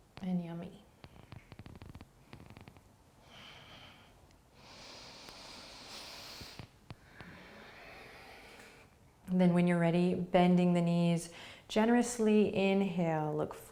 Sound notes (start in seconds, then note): 3.2 deep breathing